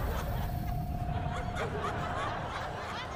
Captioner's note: laughter